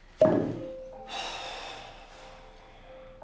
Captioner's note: sigh